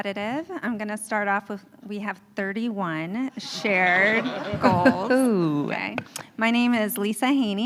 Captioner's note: laughter